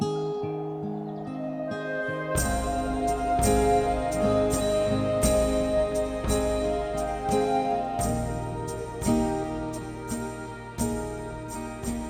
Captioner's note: gust of wind and increased tempo of the music